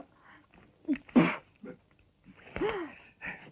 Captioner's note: spitting